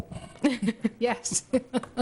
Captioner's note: laughter